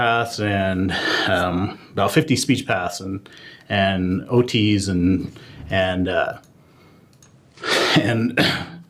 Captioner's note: cough